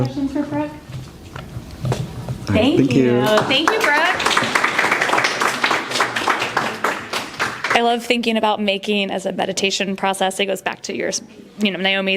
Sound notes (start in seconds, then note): 3.2 applause